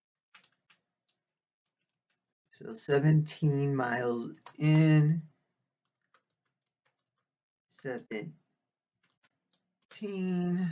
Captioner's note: tapping of keyboard